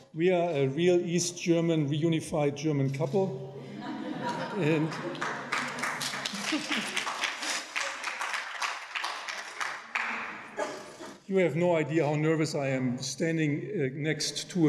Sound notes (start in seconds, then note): 4.6 audience applauding